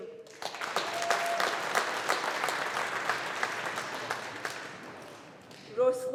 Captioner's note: audience applauding